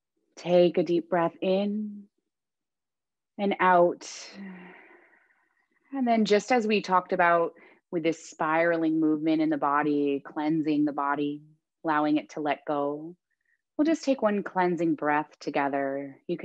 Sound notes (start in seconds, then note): 4.4 exhaling deeply; 4.4 inhaling deeply